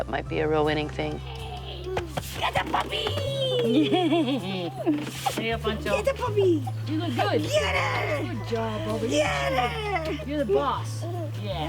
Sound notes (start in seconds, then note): 1.4 laughing baby